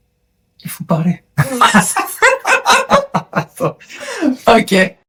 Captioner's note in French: rires